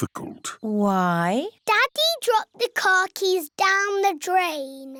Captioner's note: none